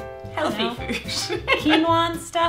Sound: laughs

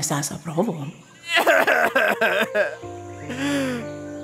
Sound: Ban crying

